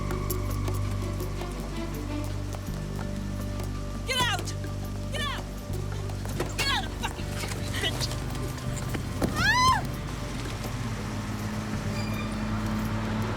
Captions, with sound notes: Get out. Get out. Get out of the fucking car, you bitch. (woman screams)